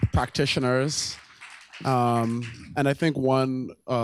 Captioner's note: applause